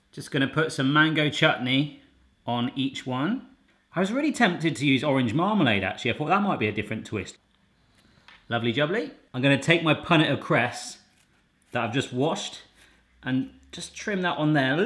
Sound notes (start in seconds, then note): none